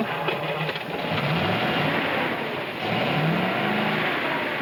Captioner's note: engine revs